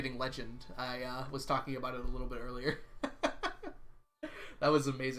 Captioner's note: laughs